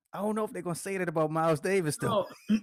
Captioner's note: laughs